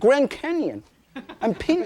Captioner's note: audience laughing